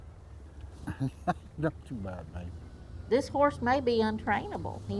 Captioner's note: chuckles